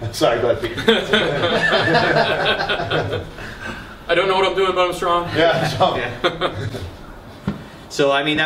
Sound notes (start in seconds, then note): 0.7 laughter; 5.4 laughter